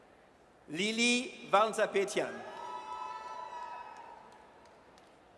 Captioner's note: audience cheers